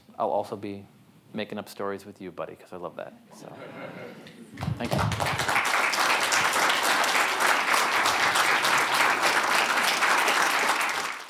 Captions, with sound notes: I'll also be making up stories with you buddy, 'cause I love that. So thank you. (audience member clap)